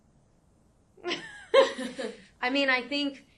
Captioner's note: chuckles